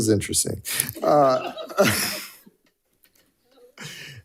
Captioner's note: all chuckling